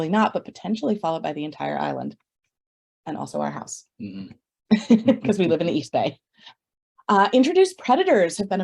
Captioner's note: laughs